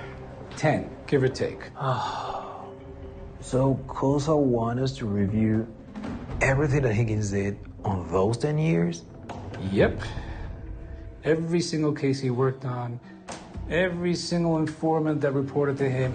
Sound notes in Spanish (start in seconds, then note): 1.8 Suspiro